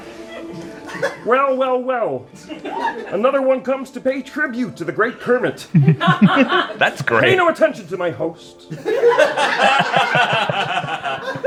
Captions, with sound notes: "Well, well, well. Another one comes to pay tribute to the great Kermit." [laughter] That's great. "Pay no attention to my host."